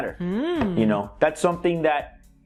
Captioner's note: hmm